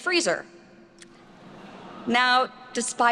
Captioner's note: attendees laughing